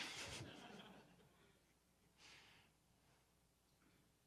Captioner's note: audience laughs